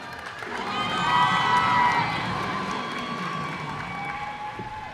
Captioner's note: cheers and applause